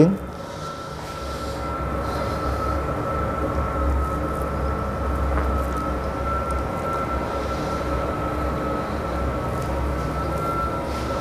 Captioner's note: printer machine noise